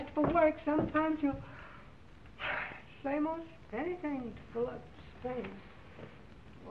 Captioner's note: groans